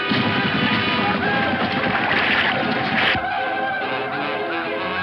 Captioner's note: Indians yell